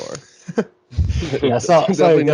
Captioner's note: all laugh; laughs